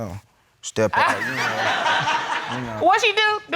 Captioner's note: laughter